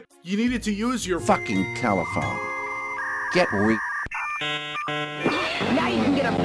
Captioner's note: dial-up noise